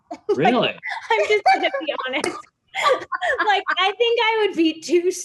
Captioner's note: laughs